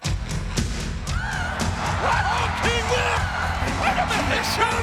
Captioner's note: upbeat music; audience cheering